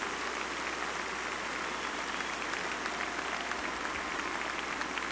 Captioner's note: applause